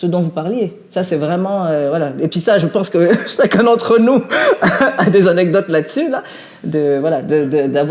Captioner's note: laughs